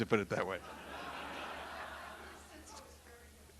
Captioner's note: audience laughing